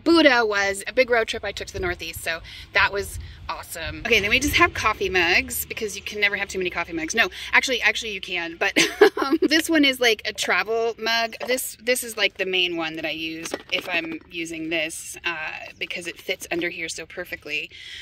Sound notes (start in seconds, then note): 8.8 laughing